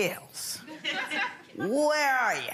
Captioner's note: audience laughing